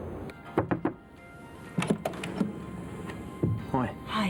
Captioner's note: knocking on door